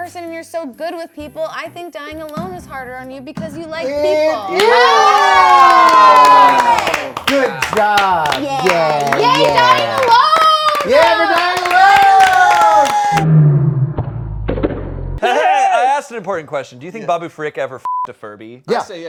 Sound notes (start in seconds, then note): 4.7 cheering; 12.5 clapping; 17.8 beep